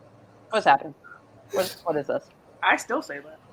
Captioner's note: stammers